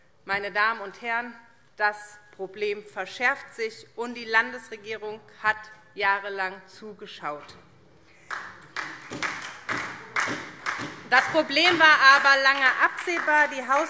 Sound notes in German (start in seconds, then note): 8.2 Beifall SPD